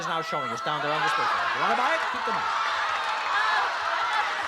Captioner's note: shouting